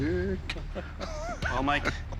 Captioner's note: laughs